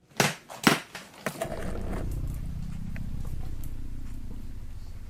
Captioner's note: briefcase clips unlocking; briefcase opening